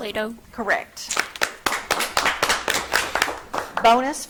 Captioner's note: audience clapping